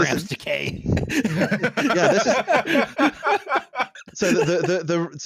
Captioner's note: all laughing